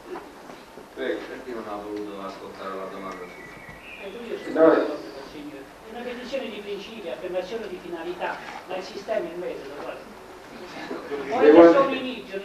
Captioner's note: italian